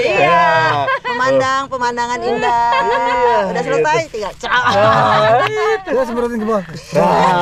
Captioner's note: applause